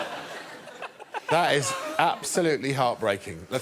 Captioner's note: laughter